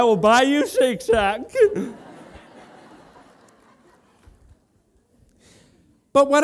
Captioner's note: laughter